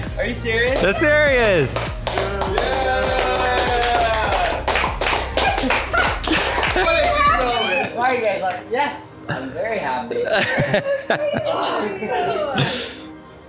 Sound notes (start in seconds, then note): 2.3 the boys cheer and clap; 5.4 laughs; 10.2 laughs